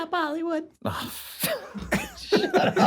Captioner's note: laughter